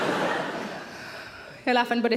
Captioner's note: audience laughs